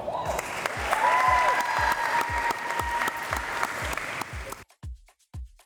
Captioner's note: applause